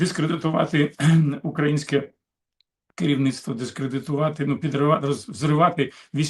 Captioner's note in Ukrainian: прочищення горла